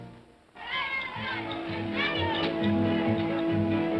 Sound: children's voices; whimsical music

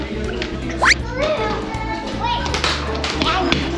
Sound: slipping sound effect

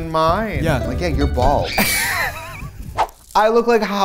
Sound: laughs

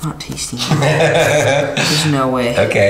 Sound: laughs

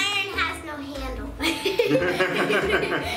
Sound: laughing

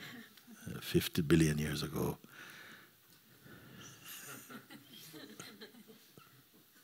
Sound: laughter; laughter

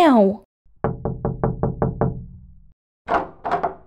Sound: knock! Knock! Knock! Knock! Knock! Knock!

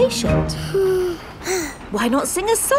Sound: both sigh

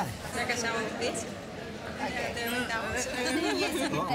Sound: women speaking spanish

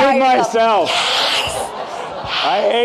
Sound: audience laughing

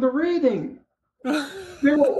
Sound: chuckle

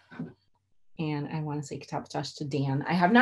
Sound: non-english

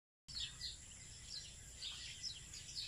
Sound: birds chirping

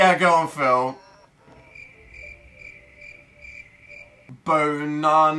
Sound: teasingly; crickets chirping

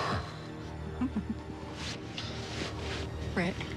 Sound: both chuckle

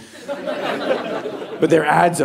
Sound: audience laughing

